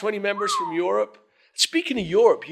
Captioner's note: whistles